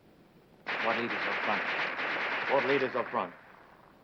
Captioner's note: guns firing